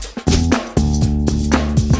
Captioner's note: swish